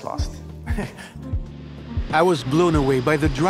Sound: laughs

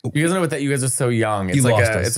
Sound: laughing

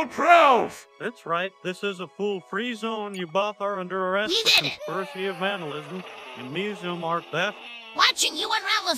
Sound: Hank Hill Voice

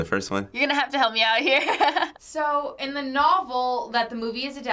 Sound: laughs

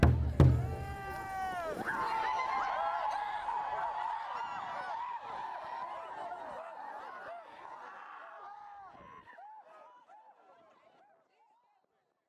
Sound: cheering

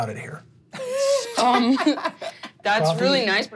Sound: laughing

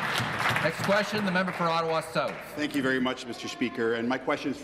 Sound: applause

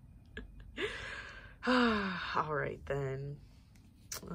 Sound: sigh

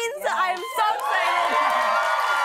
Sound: cheers and applause

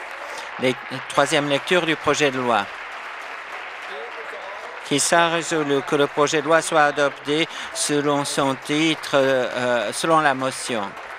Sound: applause

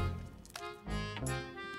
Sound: crunching

